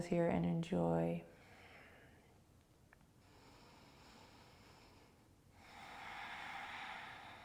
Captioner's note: breathing